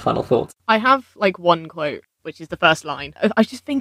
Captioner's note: laughing